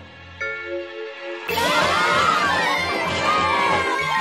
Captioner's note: all exclaiming